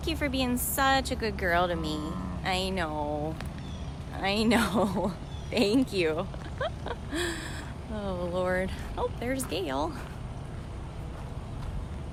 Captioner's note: groan